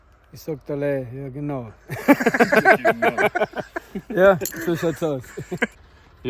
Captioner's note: in Austrian Dialect